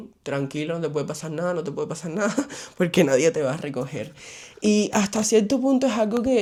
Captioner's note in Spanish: risas